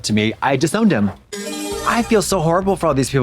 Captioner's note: bright chime